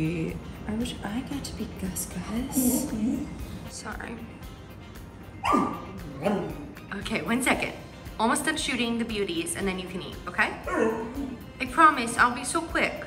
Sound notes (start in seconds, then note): 5.4 Gus growling